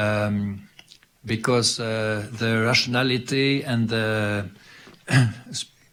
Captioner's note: clears throat